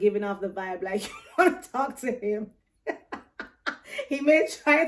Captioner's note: laughs